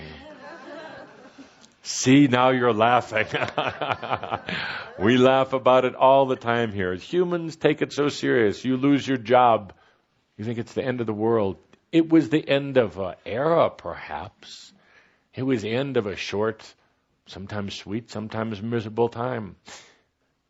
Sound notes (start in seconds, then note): 0.1 some laughter; 3.2 Kuthumi laughs